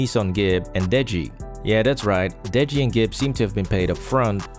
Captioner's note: record scratch